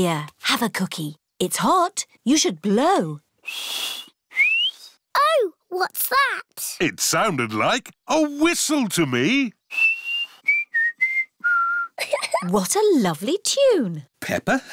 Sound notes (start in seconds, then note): 3.4 whistles; 9.6 whistles a tune; 11.9 giggles